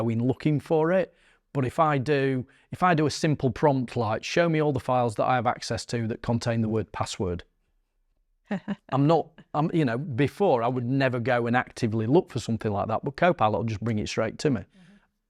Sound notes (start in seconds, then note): 8.4 laughs